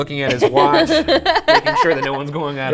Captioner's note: laughing